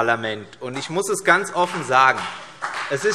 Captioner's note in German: Beifall CDU